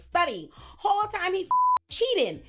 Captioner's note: beep